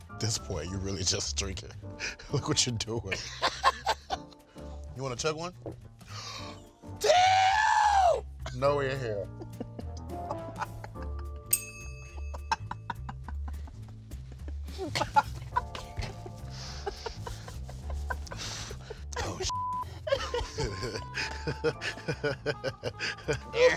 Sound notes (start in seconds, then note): 9.2 laughing; 19.5 beep; 20.0 laughing